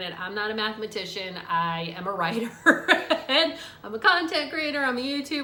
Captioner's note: laughs